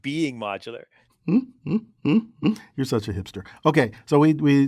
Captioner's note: laugh